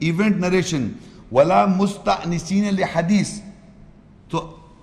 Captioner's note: Arabic